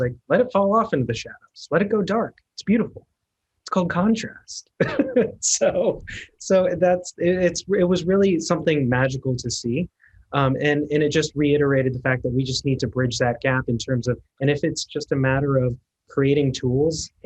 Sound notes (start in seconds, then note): 4.8 laughs